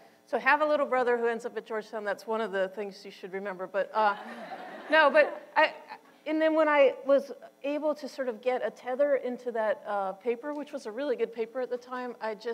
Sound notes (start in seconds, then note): 4.2 audience laughter